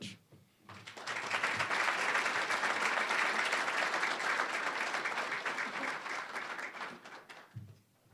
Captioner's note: applause